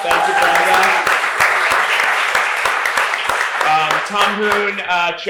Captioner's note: applause